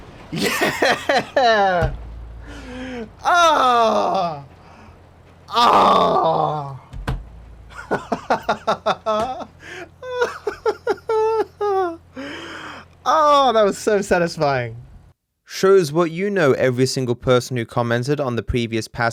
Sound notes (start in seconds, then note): 0.3 laughingly; 7.7 laughs